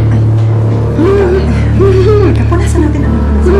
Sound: Emman giggles

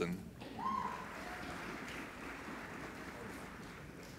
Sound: applauding

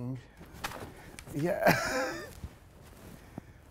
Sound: laughs

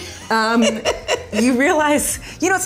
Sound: Paula laughing

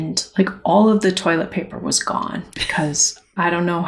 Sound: laughter

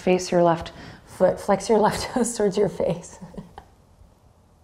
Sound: giggles

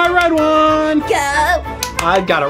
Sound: clapping

